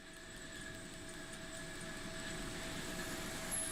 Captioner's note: machinery humming